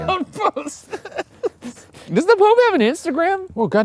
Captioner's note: laughing